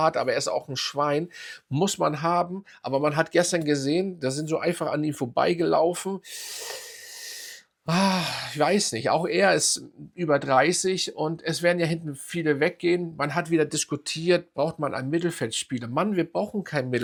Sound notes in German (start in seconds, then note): 7.8 japst; 7.8 seufzt